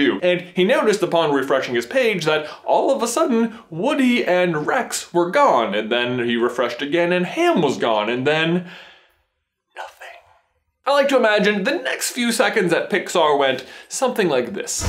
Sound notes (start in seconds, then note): 9.6 whispering dramatically